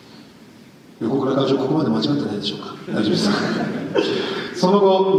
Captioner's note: laughter